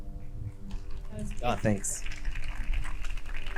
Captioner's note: crowd clapping